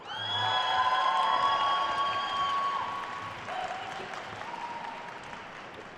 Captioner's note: attendees cheering and applauding